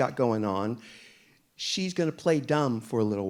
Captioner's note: none